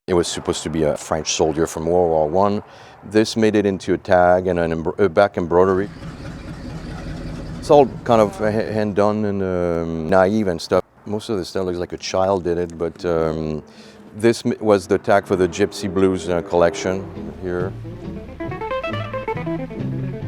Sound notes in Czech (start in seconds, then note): 5.6 Běží motor náklaďáku